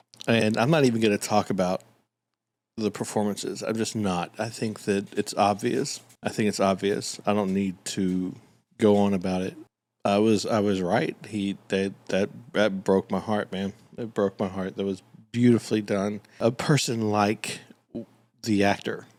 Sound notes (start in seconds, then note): none